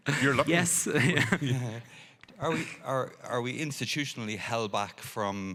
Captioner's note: chuckles